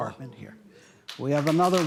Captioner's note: applause